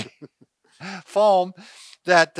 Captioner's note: both men laugh